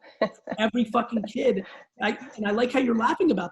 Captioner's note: laughs